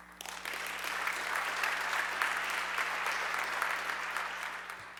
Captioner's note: audience clapping